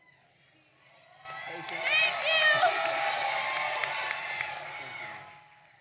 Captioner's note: audience cheering